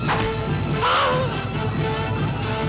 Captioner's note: arrow whooshing; man shouts; tense orchestral music